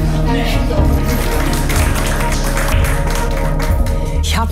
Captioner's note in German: Applaus